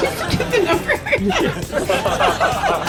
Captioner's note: all laughing